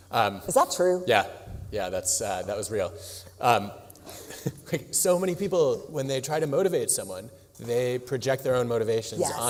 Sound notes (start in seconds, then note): 4.0 laughs